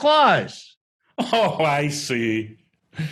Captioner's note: laughing